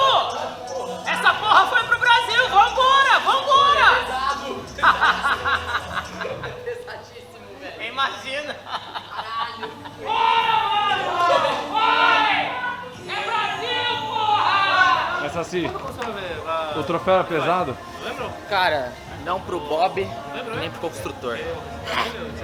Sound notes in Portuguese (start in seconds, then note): 4.5 risadas; 10.0 gritos